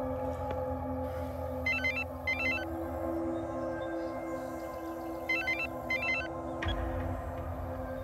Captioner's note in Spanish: suena un celular